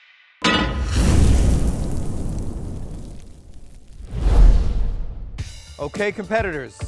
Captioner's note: pan clanks; fire whooshes